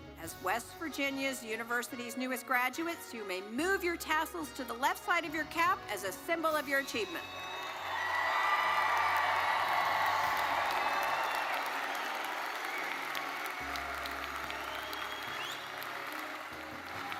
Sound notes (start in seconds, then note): 7.3 audience cheering and applauding